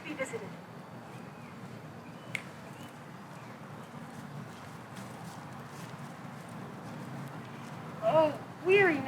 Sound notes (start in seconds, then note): 2.5 snaps